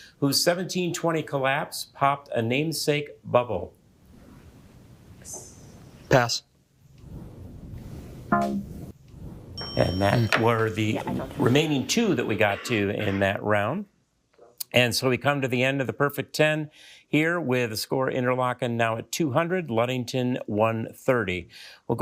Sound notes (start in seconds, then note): 9.6 bell ringing; 9.6 buzzer beeping